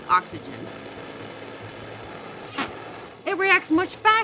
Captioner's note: torch hissing continues; air whooshes